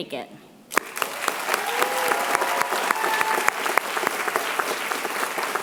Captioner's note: applause